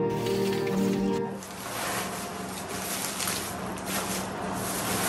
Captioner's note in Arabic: حفيف الورق